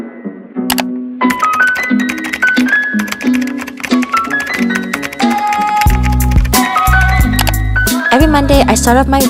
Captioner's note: keyboard Clicking & Typing